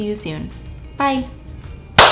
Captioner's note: clap